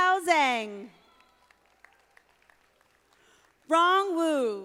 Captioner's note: audience applauding